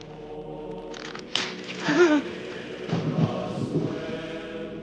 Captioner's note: gasps